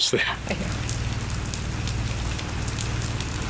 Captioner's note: rain pours